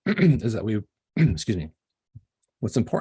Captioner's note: coughing